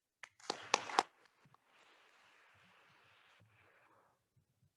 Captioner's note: attendees applauding